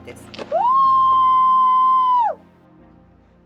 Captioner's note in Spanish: grito de júbilo